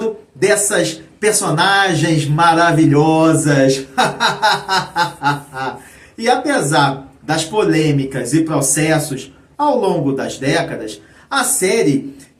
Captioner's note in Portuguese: risadas